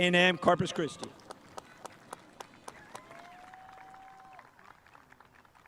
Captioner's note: spectators applauding